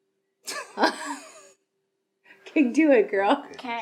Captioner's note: laughing